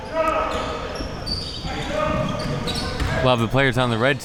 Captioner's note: audience chattering and yelling